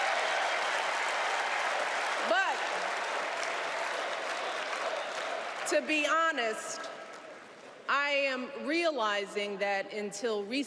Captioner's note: cheers and applause